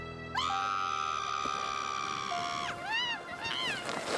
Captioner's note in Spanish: Flaky grita